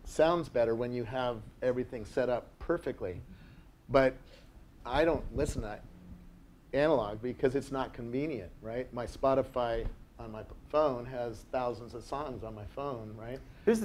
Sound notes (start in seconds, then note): none